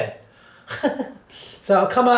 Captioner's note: laughs